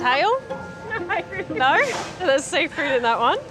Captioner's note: laughs